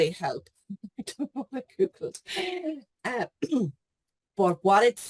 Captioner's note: laughs